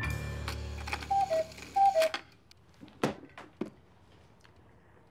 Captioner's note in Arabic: رنين ساعة الوقواق